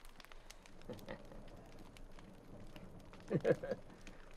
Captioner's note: laughing